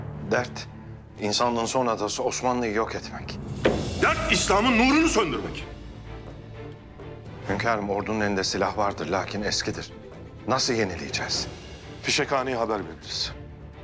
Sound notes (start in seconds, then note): 3.4 Masaya pounding sound